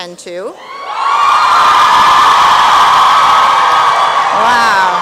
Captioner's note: applause and cheering